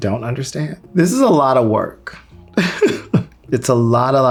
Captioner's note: chuckles